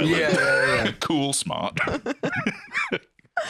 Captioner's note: laughs